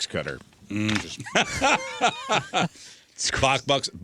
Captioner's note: laughter